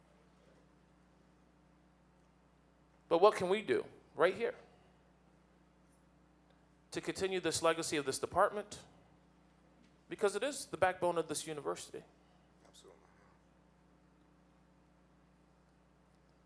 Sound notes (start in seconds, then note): none